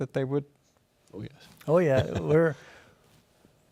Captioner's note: laughs